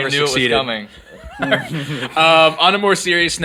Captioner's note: laughing